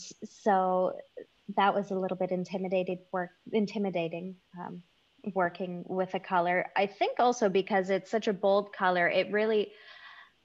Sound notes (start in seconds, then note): none